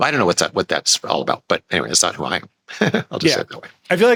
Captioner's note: laughs